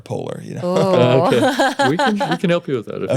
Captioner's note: laughing